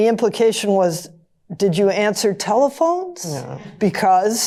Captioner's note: groans